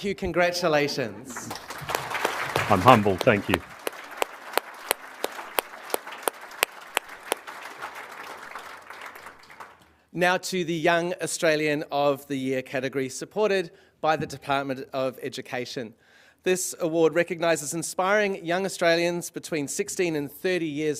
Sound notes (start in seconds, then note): 2.6 applause; 6.1 applause